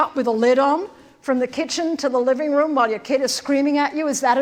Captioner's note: none